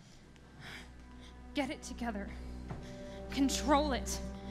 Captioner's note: sighs